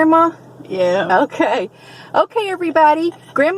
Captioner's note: laughing